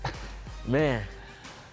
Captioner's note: laughing